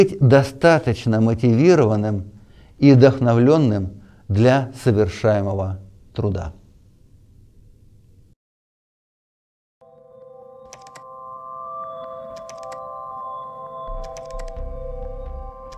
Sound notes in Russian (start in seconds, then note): 7.3 звуки клика мыши; 9.8 электронная музыка